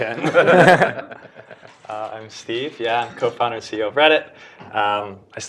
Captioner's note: laugh